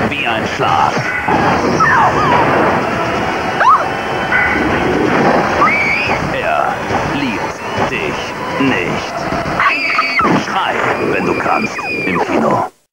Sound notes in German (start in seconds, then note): 1.0 Schrei; 9.5 Schrei; 10.2 Schuss; 11.6 Schrei